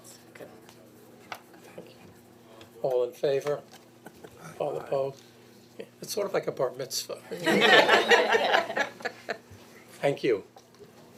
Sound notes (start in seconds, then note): 7.3 board members laughing